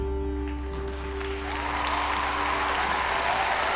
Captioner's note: applause